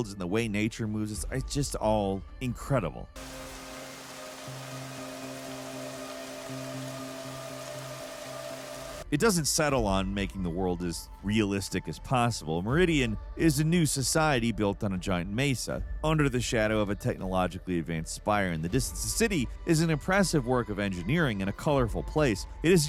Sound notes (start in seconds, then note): 3.1 rain pouring; 3.2 dramatic music